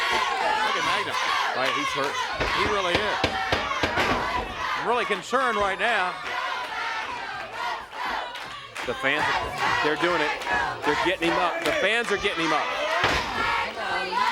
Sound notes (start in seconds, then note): 5.2 crowd cheering